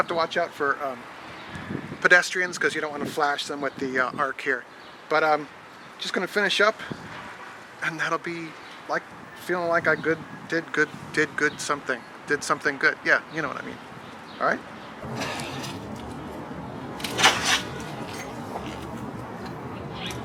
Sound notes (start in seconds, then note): 16.9 clanking